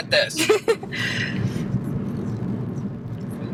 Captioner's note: laughs